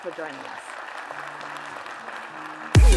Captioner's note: applause